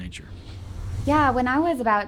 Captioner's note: whooshing